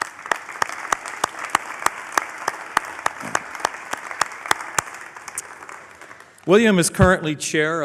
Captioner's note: applause